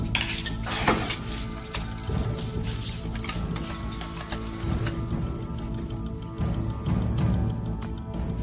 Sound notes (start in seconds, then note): 0.0 metallic scraping; 0.8 snake hisses; 4.8 dramatic music